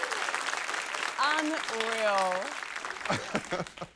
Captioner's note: laughs